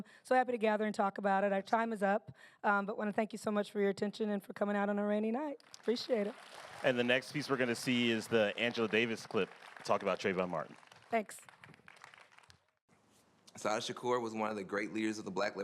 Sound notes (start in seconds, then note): 6.4 applause